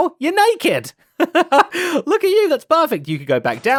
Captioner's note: laughs